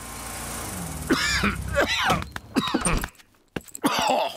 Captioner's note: coughs